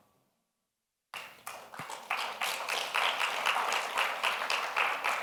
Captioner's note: audience applauding